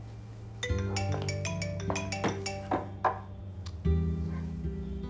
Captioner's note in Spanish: Suena el celular